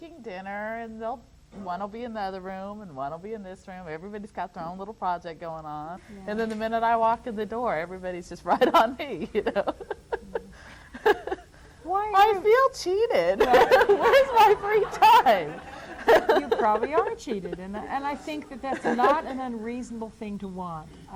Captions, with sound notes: dinner and oneíll be in the other room, oneíll be in this room. Everybodyís go their own little project goiní on. And then the minute I walk in the door, everybodyís just right on me, you know. [laughs] >Yeah. Why are youó >>I feel cheated. Whereís my free time? [laughter] >You probably are cheated. And I think that thatís not an unreasonable thing to want.